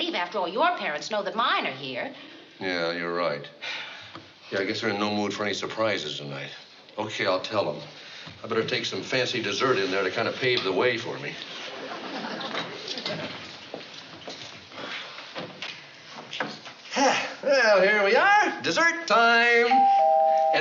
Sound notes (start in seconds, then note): 16.9 sighs; 19.7 doorbell rings